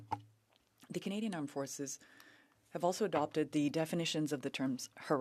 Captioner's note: speaking French